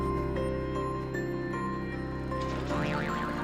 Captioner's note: spring boings; laughter